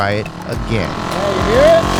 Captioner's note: motorcycle engine revving